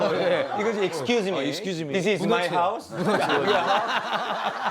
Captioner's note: in English